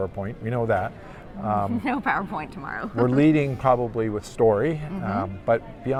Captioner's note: laughs